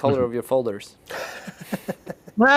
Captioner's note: laughter